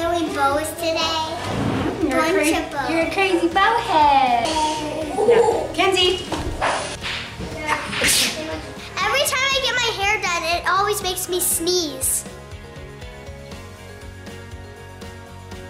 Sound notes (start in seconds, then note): 7.8 sneezes; 12.9 upbeat music